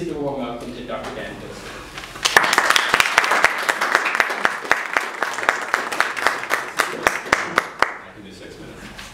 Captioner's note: applause